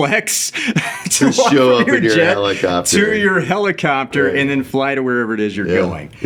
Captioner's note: laughing